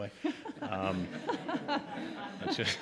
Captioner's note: audience laughing